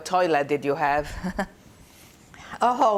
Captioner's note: laughing